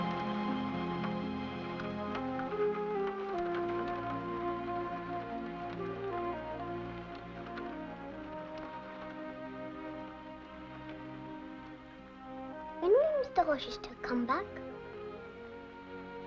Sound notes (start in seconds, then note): 0.0 dramatic music; 1.1 rain pattering softly; 1.1 sentimental music